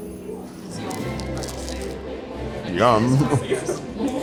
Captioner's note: bright music; teeth crunching; chuckles